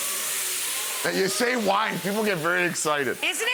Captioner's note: pan sizzles; audience exclaims